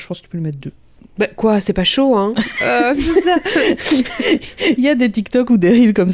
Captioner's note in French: rire